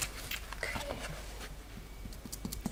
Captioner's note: quietly